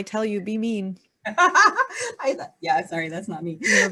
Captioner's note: laughing